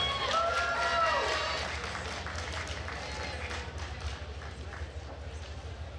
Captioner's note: attendees cheering and applauding